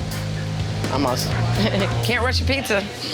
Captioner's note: chuckles